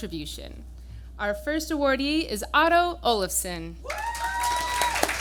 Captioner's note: applause